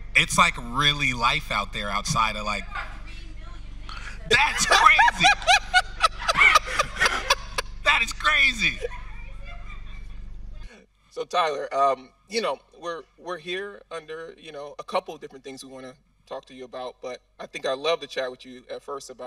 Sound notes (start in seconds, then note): 6.8 host laughing